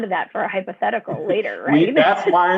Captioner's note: laughter